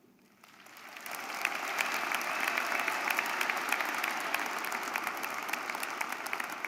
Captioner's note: audience applauding; audience cheering